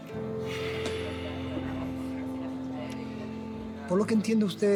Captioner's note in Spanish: exhala